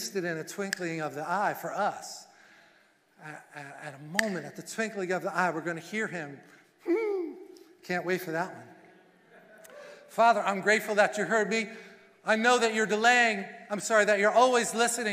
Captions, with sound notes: and a twinkling of the eye for us. At a moment, at the twinkling of the eye, we're going to hear him. Hmm, can't wait for that one. (congregation voices) "'Father I'm grateful that you heard me. "I know that you're delaying." I'm sorry, "That you're always listening,